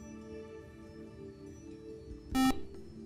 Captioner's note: buzzer